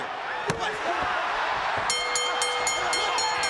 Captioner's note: bell ringing; crowd chatter